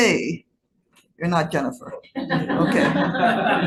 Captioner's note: audience laughing